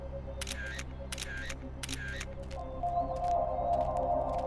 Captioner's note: camera clicking; mysterious music